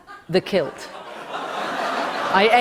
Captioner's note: laughter